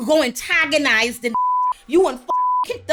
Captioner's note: beep